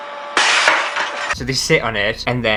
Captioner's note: scanning Sounds; glass Shatters